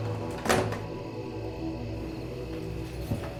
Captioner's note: door thuds